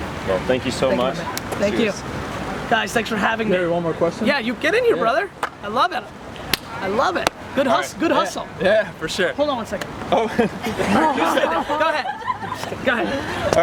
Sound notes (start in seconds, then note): 3.6 voiceover; 11.1 crew laughs